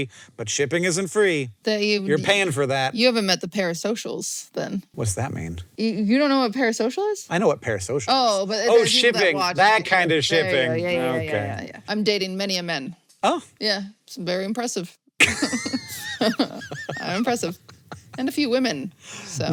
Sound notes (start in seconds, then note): 15.2 both laugh